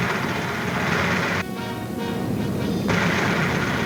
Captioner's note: rattling